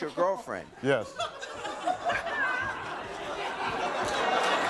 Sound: audience laughing

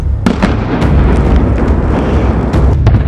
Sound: loud explosion

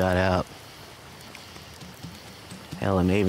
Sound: Jeff taps bottle on ground

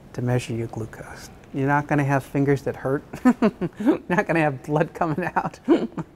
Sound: laughs

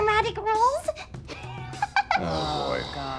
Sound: chuckling

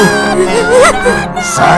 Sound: sobbing mixed with pain

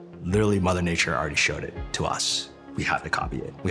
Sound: none

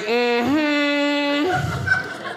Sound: audience laughing

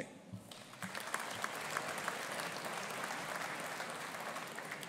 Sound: audience applauding

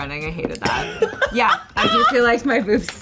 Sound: laughs

